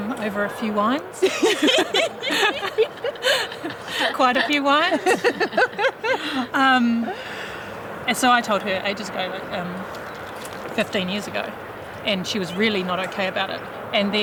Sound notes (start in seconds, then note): 1.1 group laughing